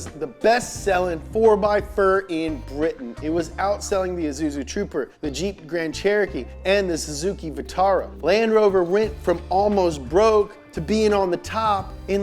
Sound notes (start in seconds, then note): none